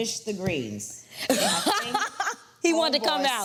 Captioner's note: laughs